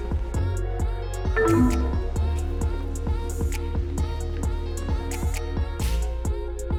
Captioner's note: electronics beep; upbeat music; electronics beep